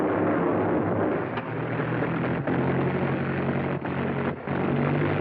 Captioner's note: engines Rumbling, Revving